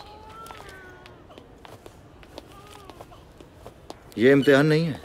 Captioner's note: Footsteps